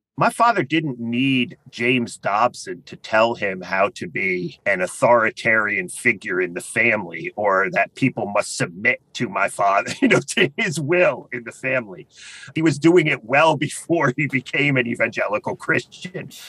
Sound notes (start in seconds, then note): 9.8 laugh